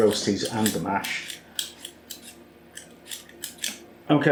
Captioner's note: peel peel